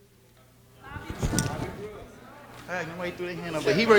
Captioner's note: audience chattering